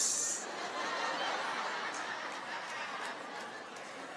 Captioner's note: audience laughing